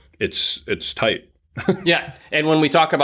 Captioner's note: laughs